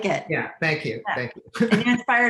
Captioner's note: laughing